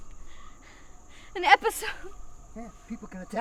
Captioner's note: panting